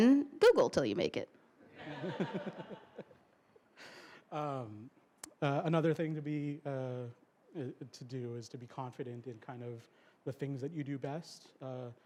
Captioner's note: laughter